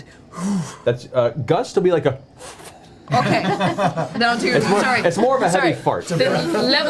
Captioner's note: pfft